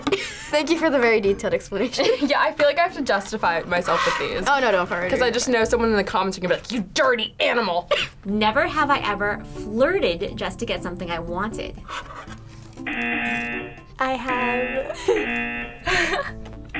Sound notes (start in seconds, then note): 12.8 buzzer; 15.1 buzzer; 15.8 laughs